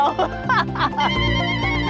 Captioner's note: laughter